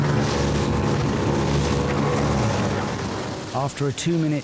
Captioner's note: lifeboat engine whirring continues